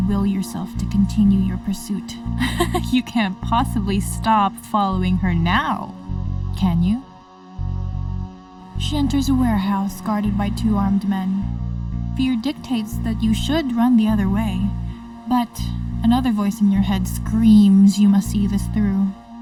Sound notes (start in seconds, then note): 2.4 laughter